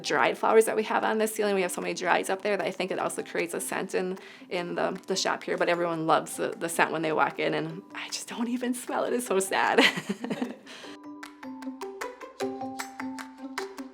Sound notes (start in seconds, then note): 9.8 participant laughs; 11.2 bright music